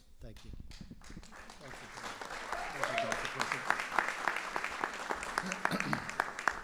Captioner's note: applause